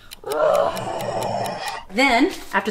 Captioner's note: gorilla growls